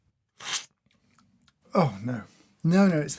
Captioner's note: slurp